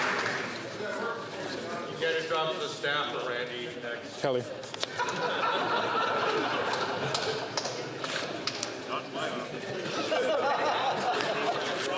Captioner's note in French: applaudissements